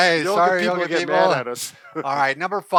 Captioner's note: laughs